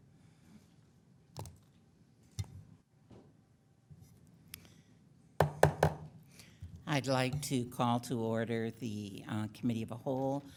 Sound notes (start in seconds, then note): 5.4 gavel bangs